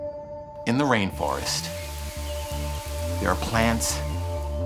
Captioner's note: rain falling